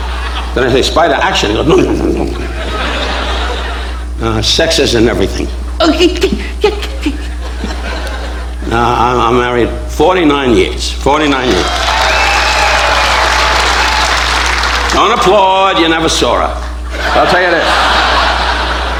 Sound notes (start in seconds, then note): 6.7 whimpering; 11.4 audience applauding; 16.6 audience laughing